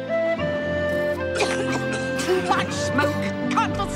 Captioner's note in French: toux